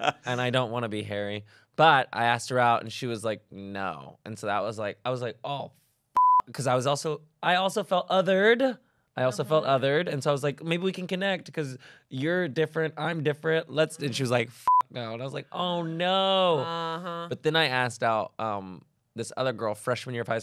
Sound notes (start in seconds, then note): 6.2 beep; 14.6 beep